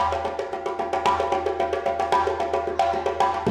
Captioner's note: none